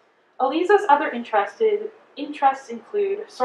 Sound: none

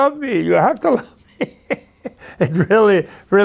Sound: laughs

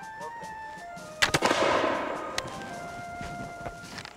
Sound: gunshot

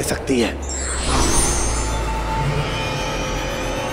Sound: sparkling

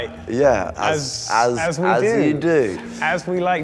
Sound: none

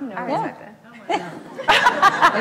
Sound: laughs

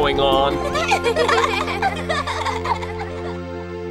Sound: giggling

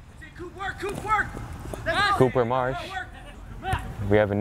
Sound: players talking and yelling

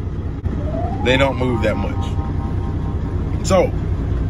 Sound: low chimes

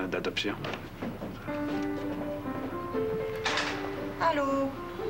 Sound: Bruit de pas

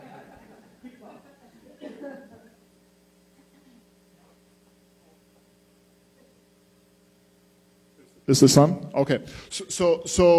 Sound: laughter

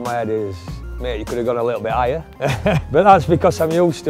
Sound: laughs

